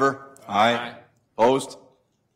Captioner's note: multiple voices